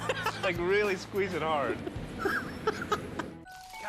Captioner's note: laughs